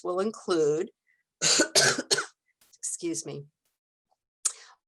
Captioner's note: coughs